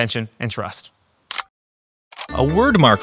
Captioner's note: camera clicking; playful fast music